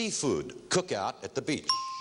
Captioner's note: ringing bell